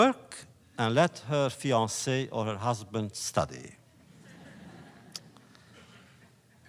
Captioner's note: laughter